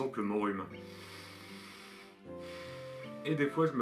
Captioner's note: nasal breathing